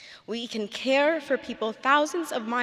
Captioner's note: none